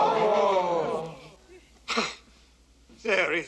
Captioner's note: crowd gasps; scoffs